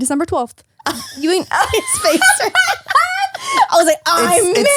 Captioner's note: laughs